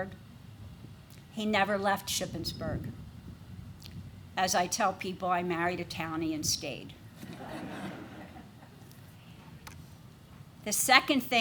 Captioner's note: laughter